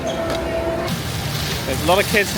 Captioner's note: fountain splashes